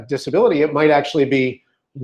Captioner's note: none